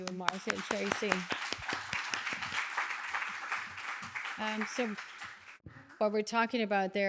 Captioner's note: applause